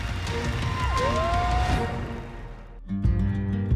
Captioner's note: whooping